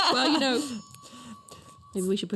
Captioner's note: tea bell rings